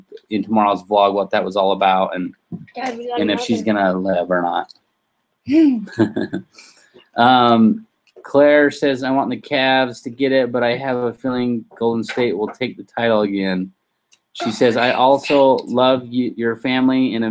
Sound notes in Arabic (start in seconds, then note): 5.6 يضحك